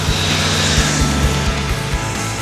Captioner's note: motorcycle revving over music